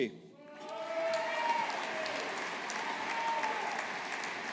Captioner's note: audience applauding